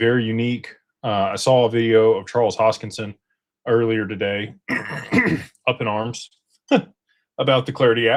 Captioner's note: clears throat